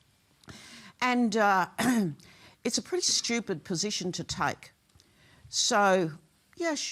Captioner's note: clears throat